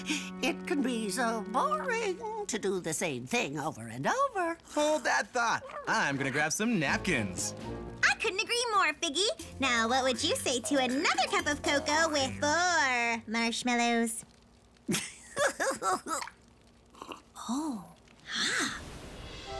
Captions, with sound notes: It can be so boring to do the same thing over and over. Hold that thought. I'm going to grab some napkins. I couldn't agree more, Figgy! Now, what would you say to another cup of cocoa with four marshmallows? (laughing) Oh! Ah!